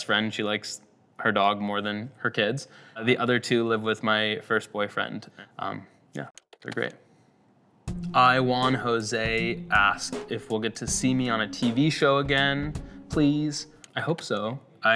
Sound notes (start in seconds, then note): 6.4 keyboard taps